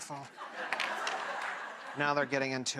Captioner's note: audience laughs